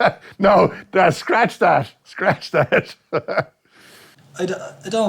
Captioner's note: laughs